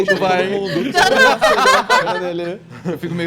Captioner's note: laughter